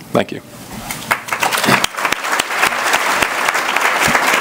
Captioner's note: applause